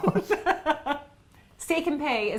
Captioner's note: chuckles; laughs